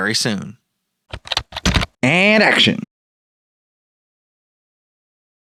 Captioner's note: typing